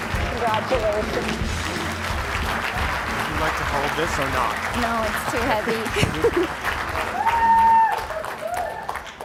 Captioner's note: applause